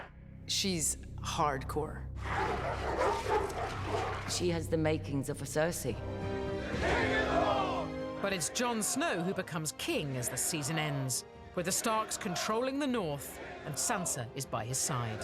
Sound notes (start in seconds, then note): 2.2 barking